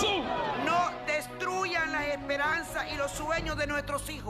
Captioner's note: speaking spanish